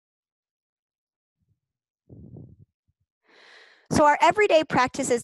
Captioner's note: silence